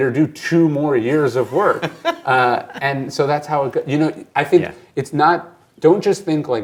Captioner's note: laughs